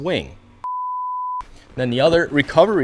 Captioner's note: beeping tone